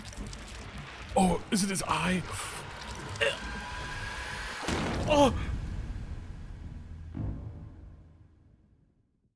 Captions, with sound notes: Oh, is it his eye? (gags) (gasps)